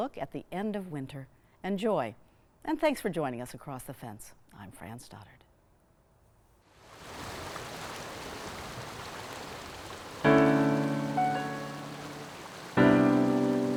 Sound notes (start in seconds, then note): 7.6 water gurgles; 10.2 enchanting music